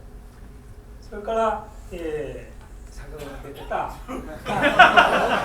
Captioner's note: speaking in foreign language; laughing